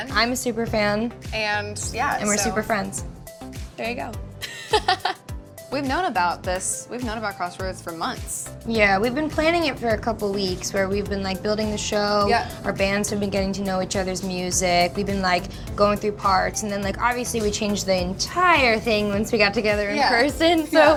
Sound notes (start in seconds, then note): 4.5 laughs